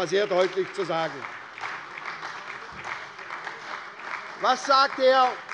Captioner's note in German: Beifall bei der SPD